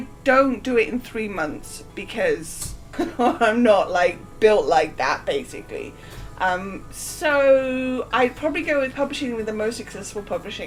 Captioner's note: laughing